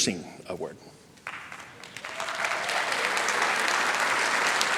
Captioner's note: applause